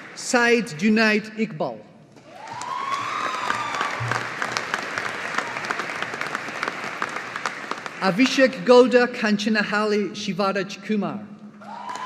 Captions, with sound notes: Syed Junaid Iqbal. (AUDIENCE APPLAUDING) Abhishek Gowda Kanchenahalli Shivaraj Kumar.